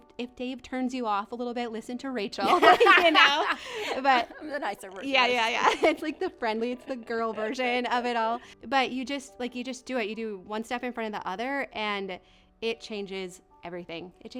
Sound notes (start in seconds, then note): 2.4 both laugh